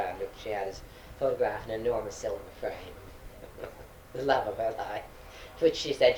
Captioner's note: laughs